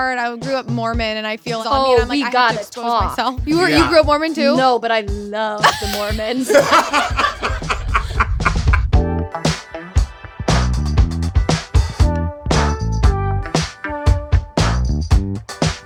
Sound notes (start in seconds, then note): 7.2 laughing; 8.6 upbeat music